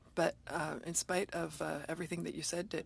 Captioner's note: speaking French